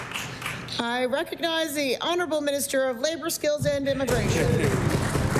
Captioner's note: applause